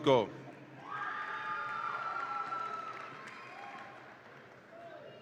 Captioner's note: audience applauds and cheers